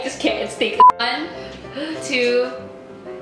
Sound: beeps

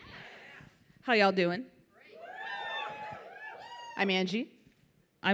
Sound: audience whoops

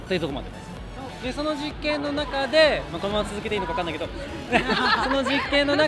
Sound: laugh

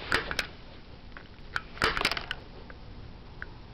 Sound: clicks

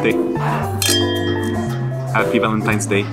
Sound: glasses clanking

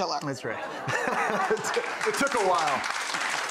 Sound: audience laughs & claps

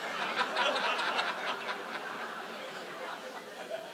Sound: audience laughs

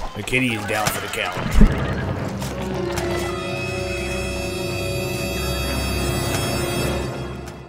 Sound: dramatic sound

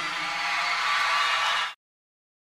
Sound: crowd cheers

